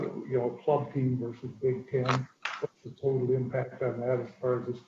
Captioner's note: distorted sound